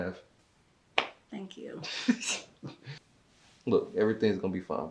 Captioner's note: giggles